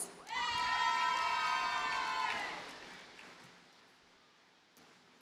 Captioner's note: audience cheers and applauds